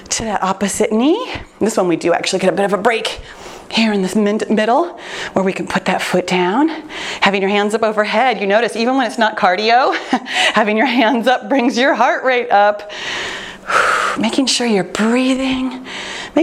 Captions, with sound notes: to the opposite knee. This one, we do actually get a bit of a break here in this middle, where we can put that foot down. Having your hands up overhead, you notice even when it's not cardio, (chuckles) having your hands up brings your heart rate up. (exhales sharply) Making sure you're breathing,